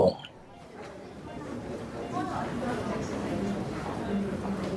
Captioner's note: audience chatter